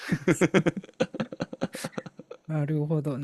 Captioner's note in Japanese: 笑い